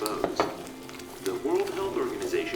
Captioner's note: sounds of using the utensils